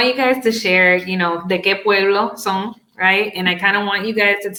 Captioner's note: speaks Spanish